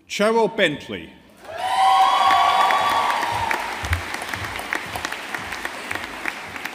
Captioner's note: audience applauding